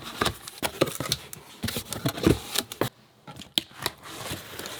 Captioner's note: boxes rustling; box being opened